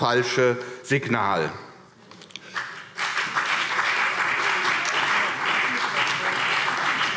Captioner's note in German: Beifall CDU